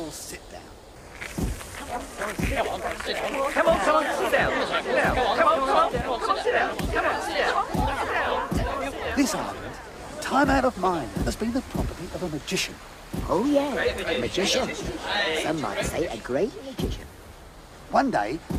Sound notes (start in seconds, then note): 13.2 chatter